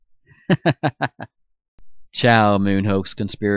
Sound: chuckles

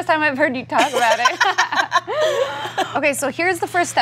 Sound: girls laughing

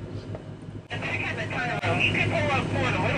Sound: over the walkie-talkie

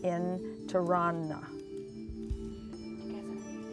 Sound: whispering

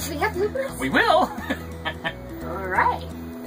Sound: laughs

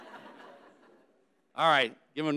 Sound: audience laughing

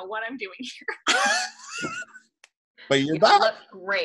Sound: chuckling

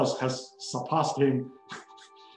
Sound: chuckles

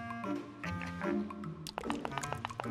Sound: chuckles

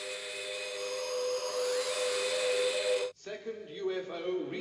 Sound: beeping continues

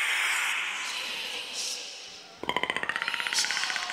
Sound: whisper

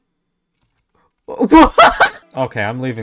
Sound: laughter

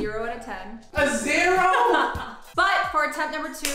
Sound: woman laughs

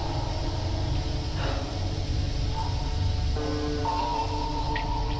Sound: Trina exhaling sharply

